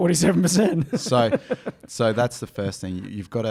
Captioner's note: laughing